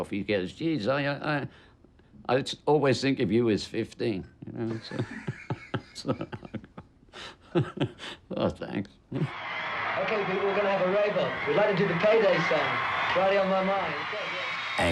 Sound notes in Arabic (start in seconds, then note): 7.5 يضحك; 9.2 الجمهور يهتف